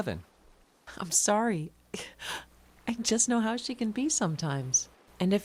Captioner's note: laughs